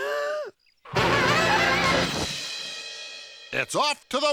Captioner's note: screech